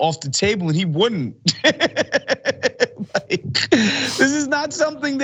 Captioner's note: laugh